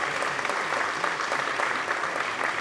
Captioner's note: applause